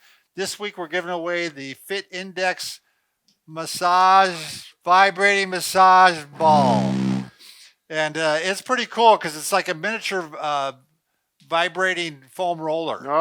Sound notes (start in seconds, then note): 6.4 ball vibrates